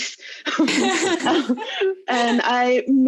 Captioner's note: laughing loudly